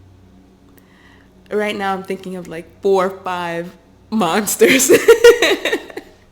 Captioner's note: loud laughter